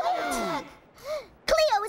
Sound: gasps

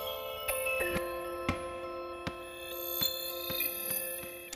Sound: ball dribbling

